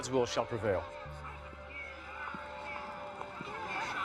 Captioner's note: protesters chanting